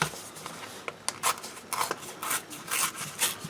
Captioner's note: tearing paper